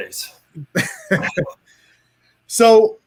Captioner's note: chuckles